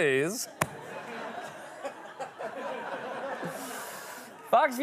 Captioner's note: laughter